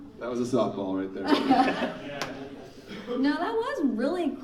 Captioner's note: laughing